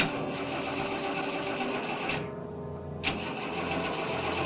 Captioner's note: engine sputtering